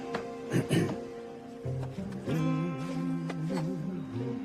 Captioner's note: Michael clears throat